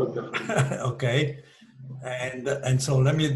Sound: laughs

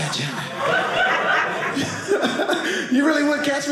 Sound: audience laughing

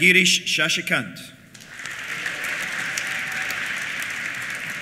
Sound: applause; cheers

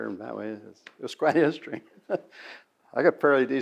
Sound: laughs

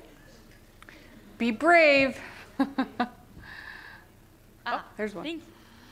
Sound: laughter

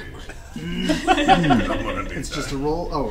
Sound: all laugh

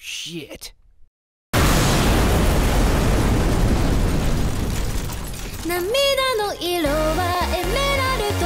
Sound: nuclear explosion

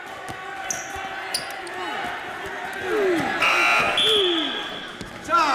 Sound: buzzer

